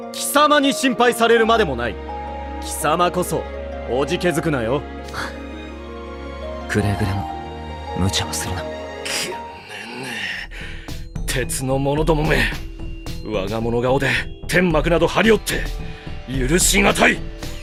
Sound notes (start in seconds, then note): 5.9 sigh